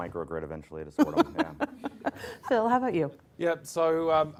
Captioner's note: laughter